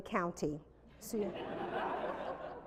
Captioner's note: laughter